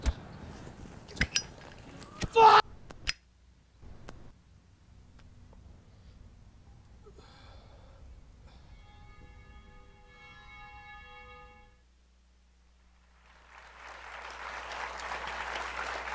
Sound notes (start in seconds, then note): 0.1 thuds; 2.0 yells; 7.0 sighs; 8.9 bell chimes; 13.0 applause